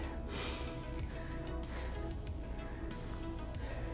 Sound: deep breath

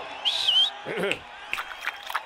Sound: whistles, clears throat

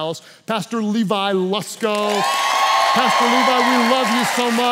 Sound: congregation cheers

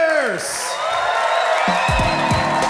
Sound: crowd applause

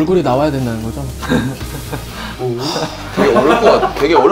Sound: laughing

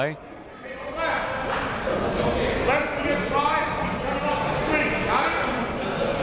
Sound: multiple people talking

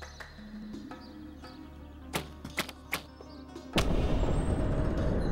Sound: sound of arrow releasing

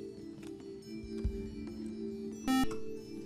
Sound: buzzer

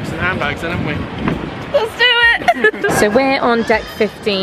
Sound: giggling

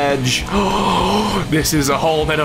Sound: gasps

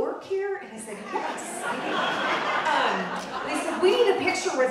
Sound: audience laughing

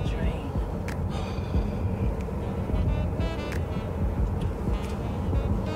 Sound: Evan breaths heavily

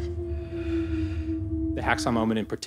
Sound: gasping; inhales

